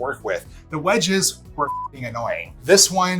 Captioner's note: beep